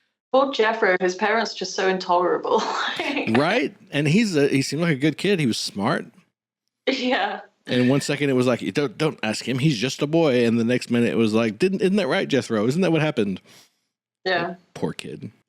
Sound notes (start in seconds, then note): 2.8 laughs; 7.7 laughing